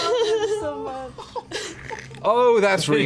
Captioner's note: ripping sounds